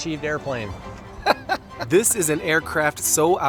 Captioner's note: Baratunde laughing quickly